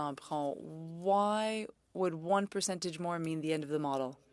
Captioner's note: speaking French